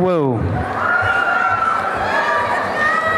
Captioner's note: applause and cheering